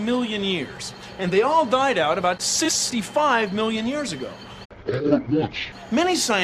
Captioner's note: low-pitched